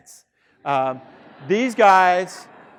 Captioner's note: students laughing